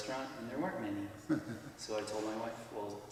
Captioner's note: chuckles